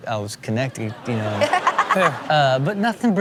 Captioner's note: Chanel laughing